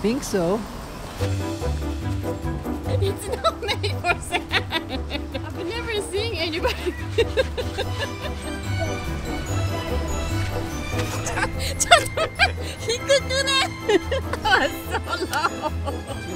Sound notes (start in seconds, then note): 2.8 laughing; 6.6 still laughing; 14.6 laughing in the background